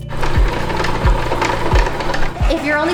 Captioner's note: machine whirring